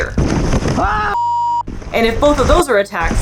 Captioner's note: crashing noise; person screaming; sustained beep noise